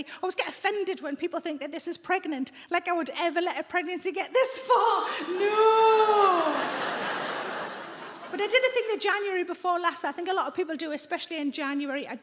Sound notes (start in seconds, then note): 6.1 audience laughing